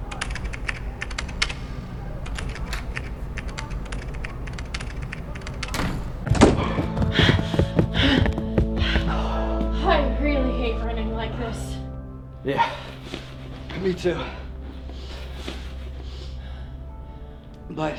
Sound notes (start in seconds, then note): 0.0 typing; 5.6 door slams shut